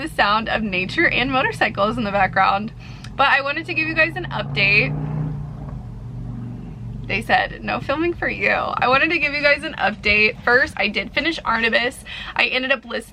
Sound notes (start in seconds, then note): 5.3 loud motorcycle engine rev